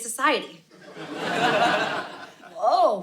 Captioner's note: audience laughing